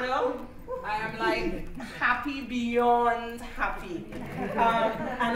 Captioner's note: laughter